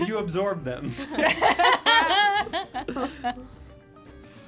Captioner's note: laughing